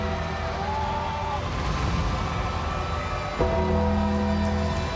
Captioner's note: audience cheers